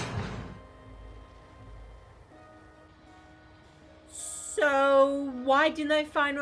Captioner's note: none